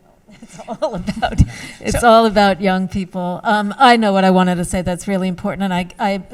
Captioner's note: laughs